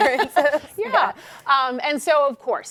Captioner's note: laughing